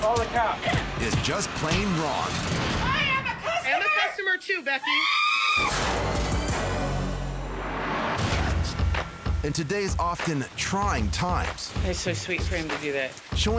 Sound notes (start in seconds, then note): 4.7 screams; 8.4 dramatic music